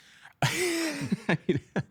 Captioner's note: laughing